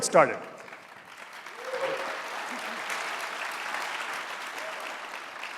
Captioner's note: audience applauding